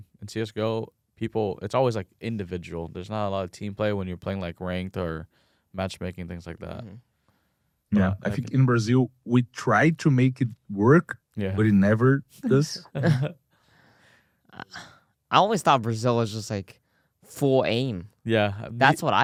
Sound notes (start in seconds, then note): 12.5 laughs